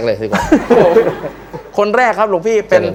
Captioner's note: laughter